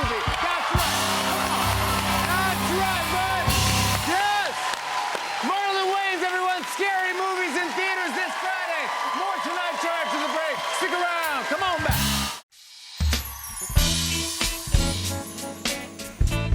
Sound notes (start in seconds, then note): 5.4 cheers and applause